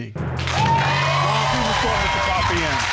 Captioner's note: loud applause